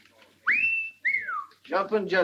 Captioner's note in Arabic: ويد يصفر